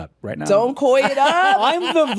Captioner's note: laughs